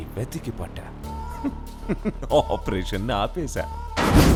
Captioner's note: laughing